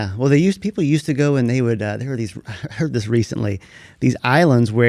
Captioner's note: laughs